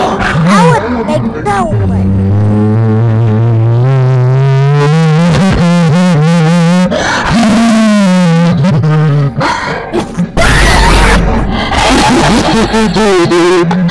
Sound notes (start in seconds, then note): 2.3 satan's laughing transforming; 7.1 satan uses gigglelaughalitor